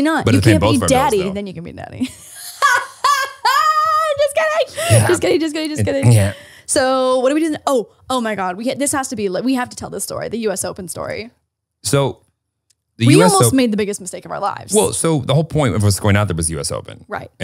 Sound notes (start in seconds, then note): 2.0 laughing